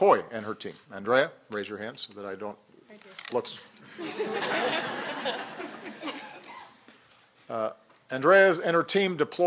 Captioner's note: laughter